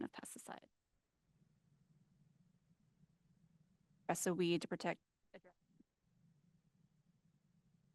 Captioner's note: audio Missing